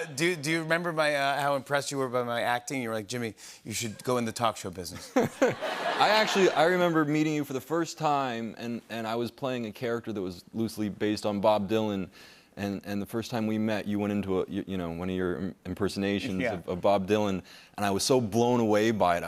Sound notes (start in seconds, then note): 4.9 laughter